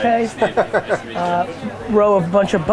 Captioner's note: laughs